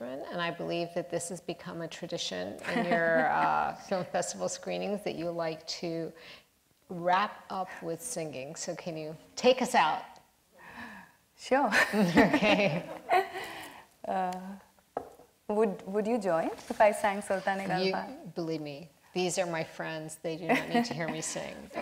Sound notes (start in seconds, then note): 11.9 laughs; 17.7 voice trails off